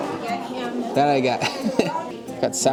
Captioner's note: laughs